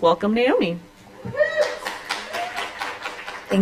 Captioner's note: applause